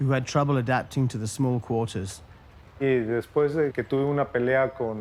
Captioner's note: in Spanish